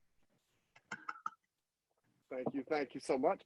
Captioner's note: clapping